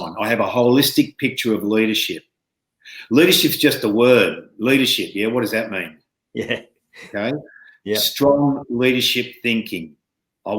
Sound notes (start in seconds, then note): 6.3 chuckling